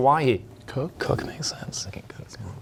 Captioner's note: whispering